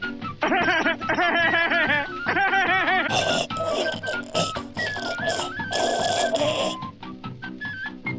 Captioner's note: Peter Griffin laughs, chokes